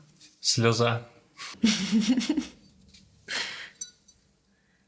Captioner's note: giggles